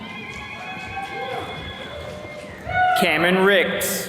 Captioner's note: attendees cheering